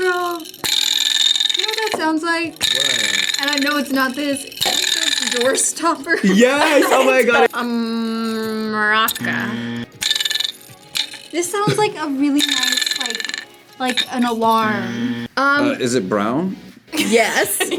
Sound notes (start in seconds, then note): 9.1 buzzer